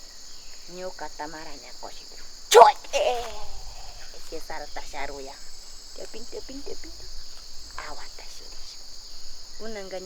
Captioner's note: And crying a wooly monkey cry